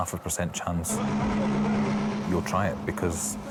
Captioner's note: lifeboat engine whirring